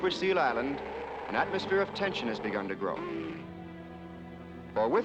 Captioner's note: growling